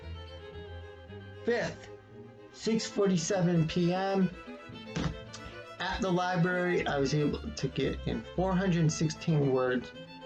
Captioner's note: clank of phone hitting the desk